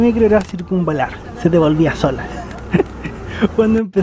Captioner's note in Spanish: risas